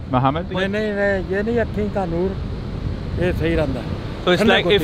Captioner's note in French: Langue locale